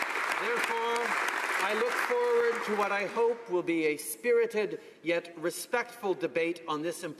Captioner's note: applause